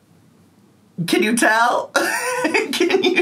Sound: laughs

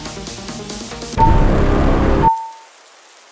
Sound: foghorn and bass; beep beep beep

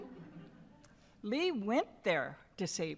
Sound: laughter

